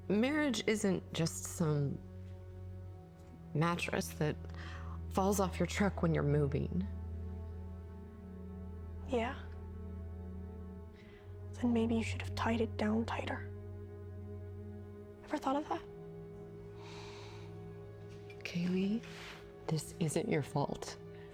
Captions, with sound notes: Marriage isn't just some mattress that falls off your truck when you're moving. - Yeah, then maybe you should have tied it down tighter. Ever thought of that? (Jim inhaling) - Kaylee, this isn't your fault.